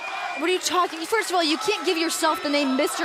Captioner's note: cheering